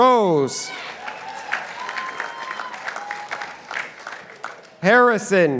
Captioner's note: participants applauding